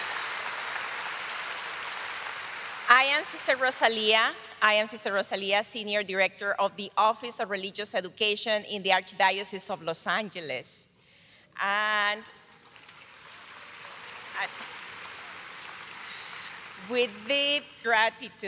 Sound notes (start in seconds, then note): 5.0 applause